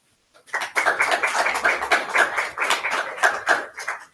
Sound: audience clapping

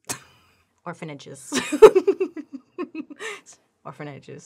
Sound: laughs

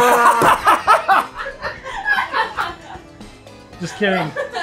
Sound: laughing

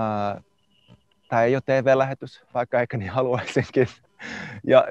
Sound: laughs

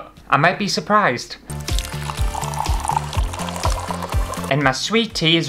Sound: tea Pouring

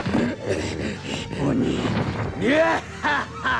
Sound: panting

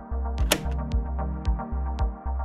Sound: gentle music; button clunks

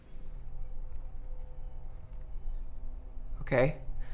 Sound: insects chirping

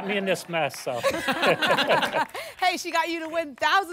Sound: laughter

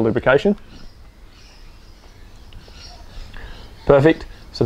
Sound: birds chirping

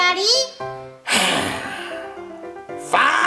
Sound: sighs

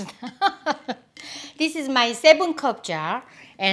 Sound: laughs

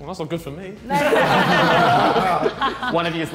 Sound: all laughing

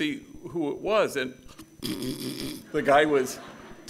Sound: snoring

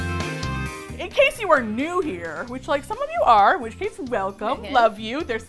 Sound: uptempo Music; small voice; sweetly

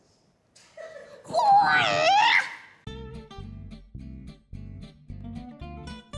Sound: laughter; karate noise

